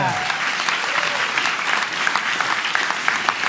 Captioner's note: applause